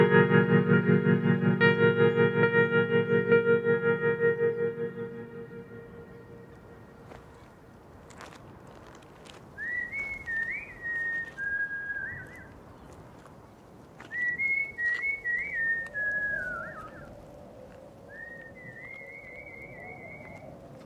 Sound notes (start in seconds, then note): 8.0 shingle crunching; 9.6 whistling; 18.3 wind howling, whistling continuing